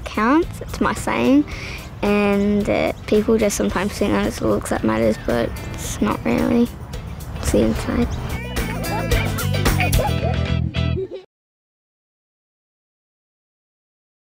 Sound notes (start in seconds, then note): 8.6 all laugh